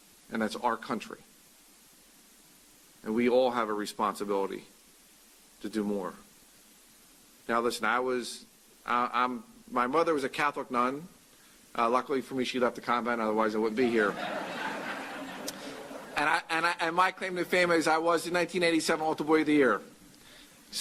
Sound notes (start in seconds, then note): 13.8 laughter